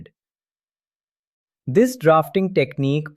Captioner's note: pause